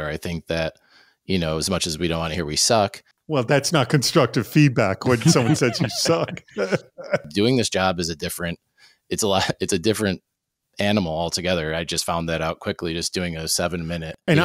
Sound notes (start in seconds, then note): 5.0 laughs